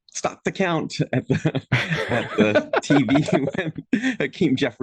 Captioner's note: all laughing